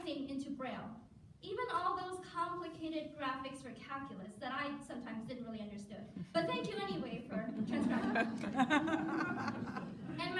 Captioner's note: audience laughter